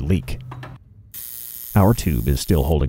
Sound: sparks zapping

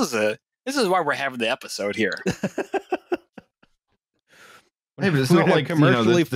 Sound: laughs

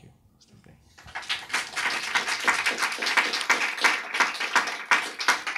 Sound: audience applauds

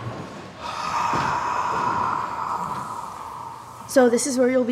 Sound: unnerving hot gross exhales

